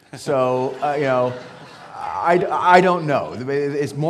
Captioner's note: audience laughing